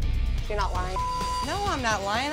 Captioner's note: beep